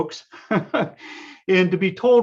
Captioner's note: laughs